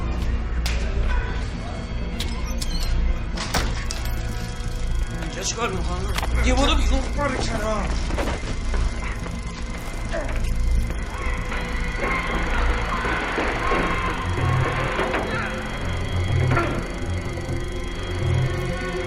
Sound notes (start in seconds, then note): 3.3 door opening